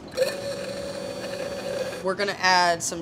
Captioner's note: immersion blender whirs